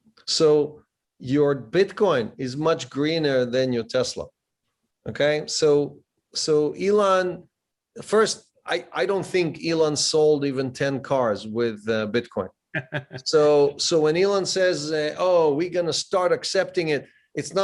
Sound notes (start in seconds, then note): 12.7 laughs